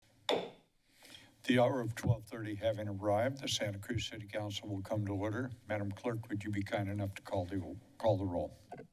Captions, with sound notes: [gavel bangs] - The hour of 12:30 having arrived, the Santa Cruz City Council will come to order. Madam clerk, would you be kind enough to call the... call the roll?